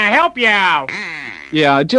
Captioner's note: duck quacks